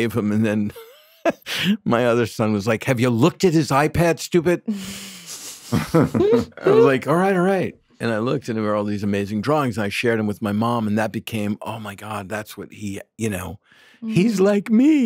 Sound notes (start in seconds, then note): 0.8 laughs; 5.4 group laughing